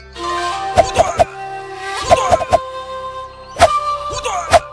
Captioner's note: man grunting